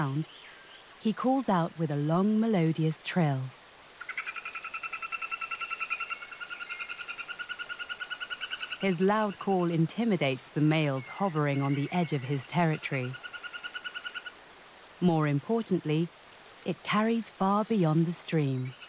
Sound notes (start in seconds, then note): 3.7 frog croaking